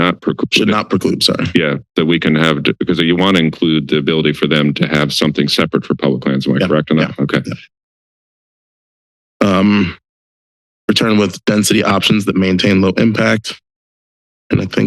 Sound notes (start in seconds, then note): 8.3 silence